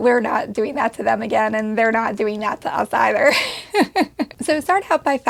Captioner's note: laughs